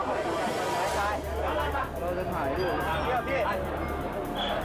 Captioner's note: all speaking in foreign language